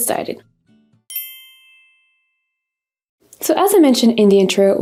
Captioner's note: text dings